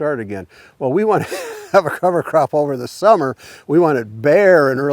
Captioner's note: laughs